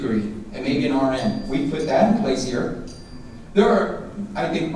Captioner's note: dinging